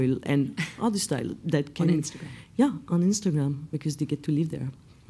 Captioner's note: none